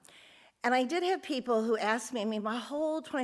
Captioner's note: none